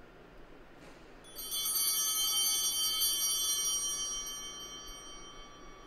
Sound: chimes ringing

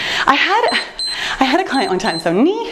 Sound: timer beeps

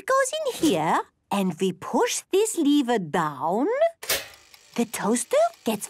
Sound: clicks

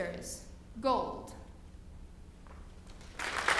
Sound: applause

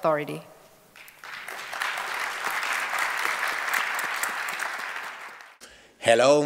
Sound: applause

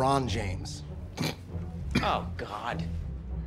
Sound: coughs

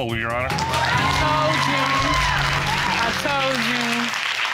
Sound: cheers and applause

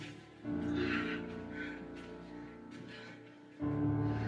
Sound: sighs

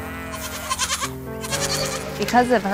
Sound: goat bleating

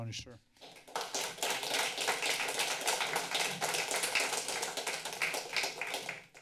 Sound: applause

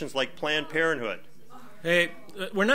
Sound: overlapping chattering

